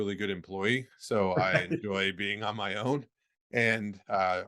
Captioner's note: chuckling